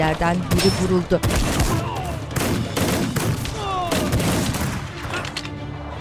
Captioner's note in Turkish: Silah sesleri; İnleme sesleri